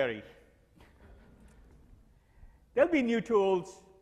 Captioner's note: quiet laughter